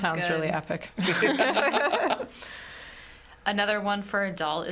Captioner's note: all laughing